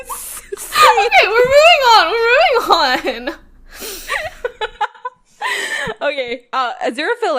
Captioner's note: both laugh; laughing; laughs